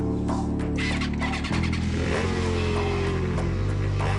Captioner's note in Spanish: Ruido de la moto